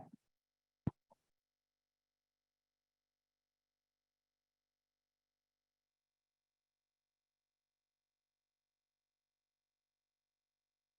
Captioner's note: silence